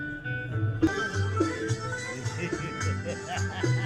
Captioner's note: laughing